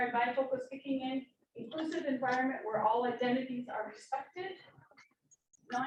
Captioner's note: none